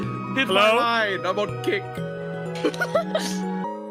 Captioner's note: laughs